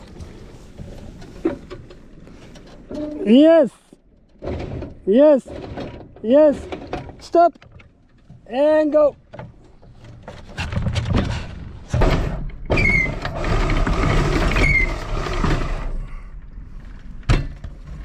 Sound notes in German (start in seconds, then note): 13.2 Ankerkette dreht sich